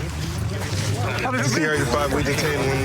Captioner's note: excited chatter